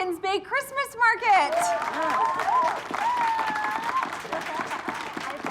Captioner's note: cheering, applauding